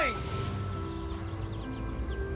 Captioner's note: engine revs